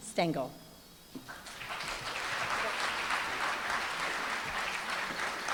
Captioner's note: applause